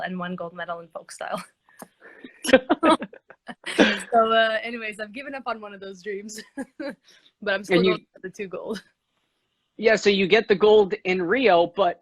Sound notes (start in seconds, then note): 2.2 both laughing